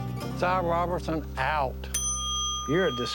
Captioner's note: dings bell